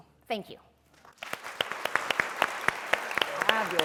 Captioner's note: applause